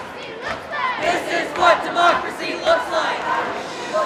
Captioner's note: chanting; group chanting; crowd shushes